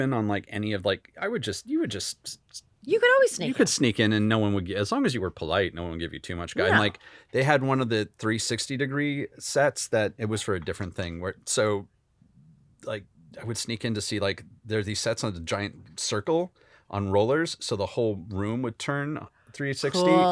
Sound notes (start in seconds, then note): none